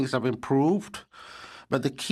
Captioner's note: speaking French